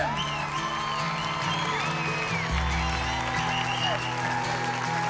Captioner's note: cheering and clapping